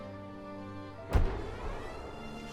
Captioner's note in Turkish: Top patlama sesi